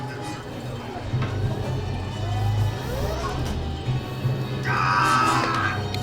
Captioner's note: screams